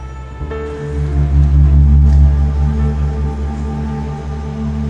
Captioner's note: eerie vibrations